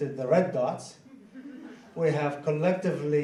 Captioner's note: laughing